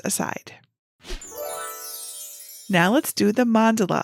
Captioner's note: twinkling chime